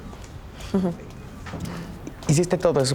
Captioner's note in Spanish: Ríe